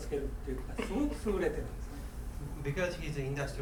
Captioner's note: coughing